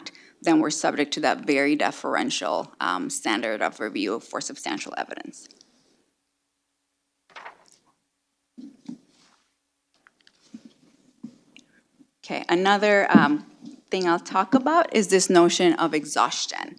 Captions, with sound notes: then we're subject to that very deferential standard of review for substantial evidence. [silence] Okay. Another thing I'll talk about is this notion of exhaustion.